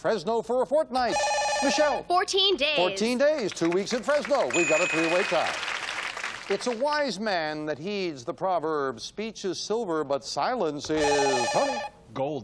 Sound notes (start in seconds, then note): 4.5 beep; 4.6 ding